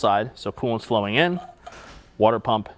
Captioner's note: water pump rattles